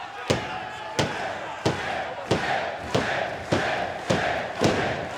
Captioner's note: crowd chants "Sid"